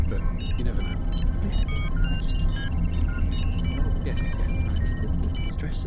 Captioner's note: indistinct chatter continues